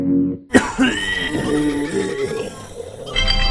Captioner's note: coughing; obnoxious ringtone